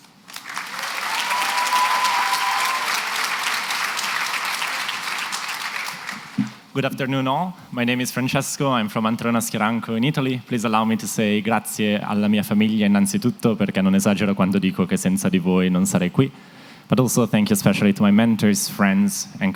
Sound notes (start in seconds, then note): 0.2 cheering and applause; 11.5 italian